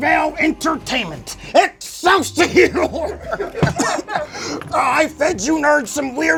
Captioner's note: coughs